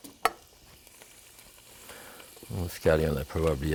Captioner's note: pan sizzling